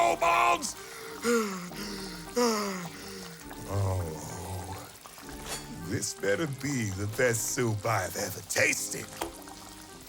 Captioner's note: shifting from despair to anger, threatening